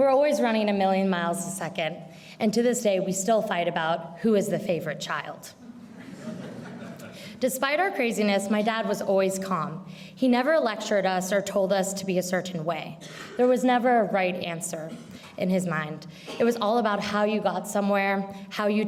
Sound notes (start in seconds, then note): 5.7 audience laughs